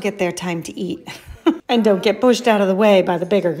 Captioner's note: laughs